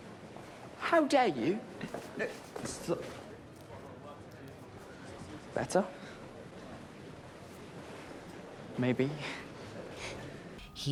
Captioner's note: scoffs